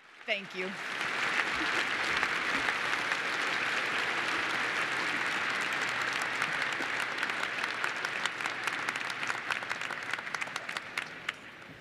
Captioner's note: applause